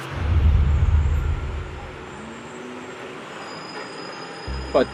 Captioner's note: train squealing